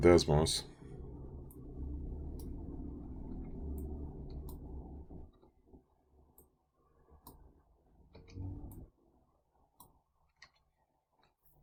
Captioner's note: clicking Sounds